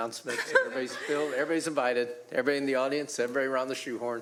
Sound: laughter

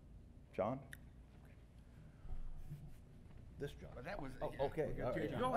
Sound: indistinct chatter

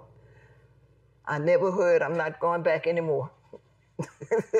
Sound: laughs

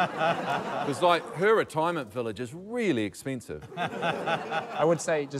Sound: laughter; laughter

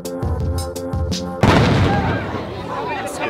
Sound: loud Boom

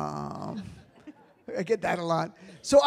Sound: audience laughs

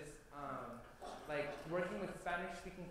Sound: foreign language spoken

